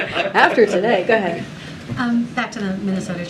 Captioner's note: laughter; laughs